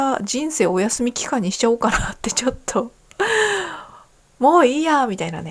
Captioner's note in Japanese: 息をのむ音